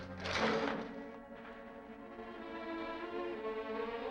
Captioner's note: metal rattles